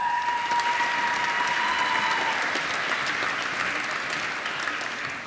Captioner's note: applause